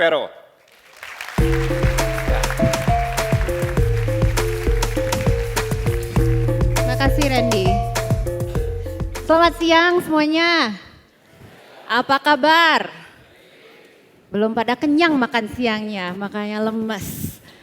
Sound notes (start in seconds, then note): 0.6 applause; 9.7 non-english speech